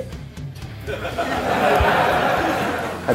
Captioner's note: audience laughing